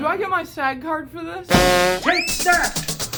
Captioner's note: clown horn; funky music; slide whistle